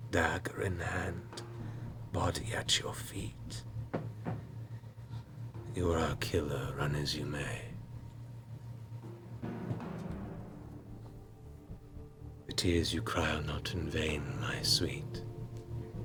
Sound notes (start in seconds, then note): none